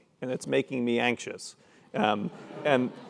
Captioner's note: laugh